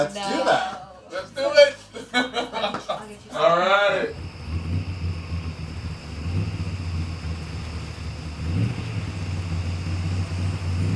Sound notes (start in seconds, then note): 1.8 laughing; 3.2 engine rumbling